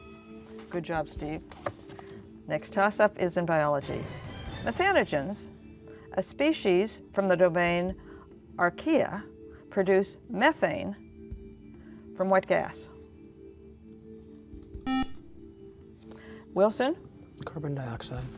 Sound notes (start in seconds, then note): 14.8 beeping